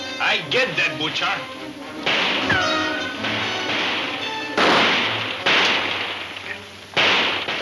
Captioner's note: dramatic music; guns firing